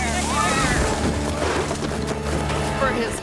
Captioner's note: feet rustling